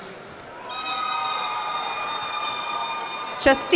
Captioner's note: horn honking